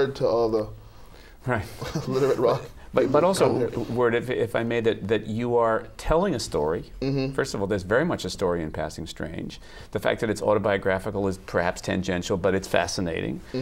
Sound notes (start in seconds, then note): 1.8 laughs